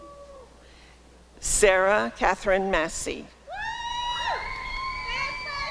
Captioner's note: applause and cheering